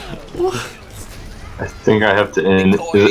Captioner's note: sounds of disbelief